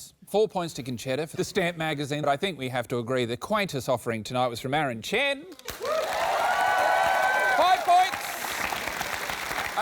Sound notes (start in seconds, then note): 5.6 cheering, applause